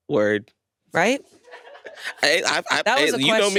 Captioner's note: crew laughing